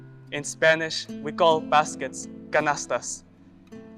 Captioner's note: speaks Spanish